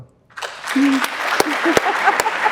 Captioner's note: audience clapping; laughing